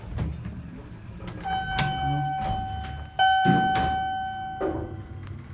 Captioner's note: elevator Chimes Twice